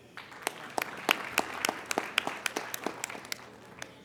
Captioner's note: applauding